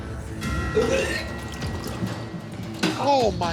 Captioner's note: retching